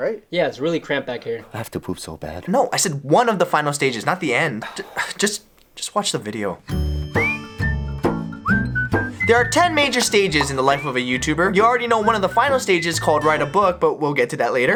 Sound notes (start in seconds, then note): 4.9 ugh